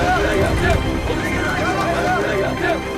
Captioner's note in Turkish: Bağrışma sesleri